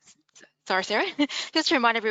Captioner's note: chuckles